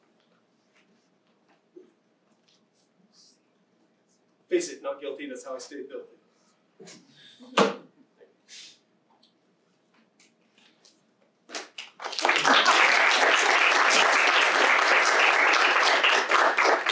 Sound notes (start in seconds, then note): 7.8 objects thuds; 11.5 students clapping